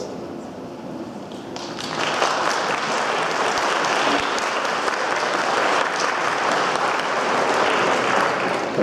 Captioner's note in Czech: potlesk